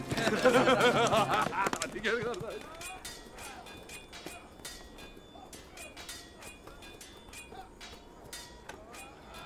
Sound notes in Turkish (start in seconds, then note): 0.0 Gülme sesleri; 4.4 Kılıç sesleri